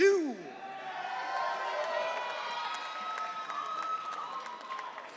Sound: audience cheering

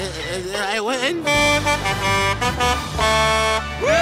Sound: truck horn; cheering

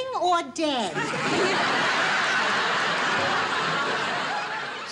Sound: audience laughing

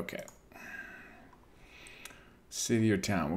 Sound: sighs

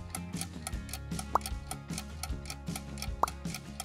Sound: pop; pop

